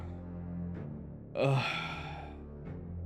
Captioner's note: sigh